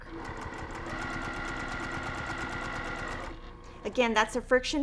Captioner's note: sewing machine whirring